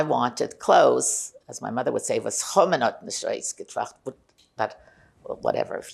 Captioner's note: yiddish